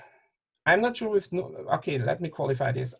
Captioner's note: murmurs